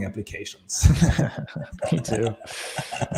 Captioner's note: laughs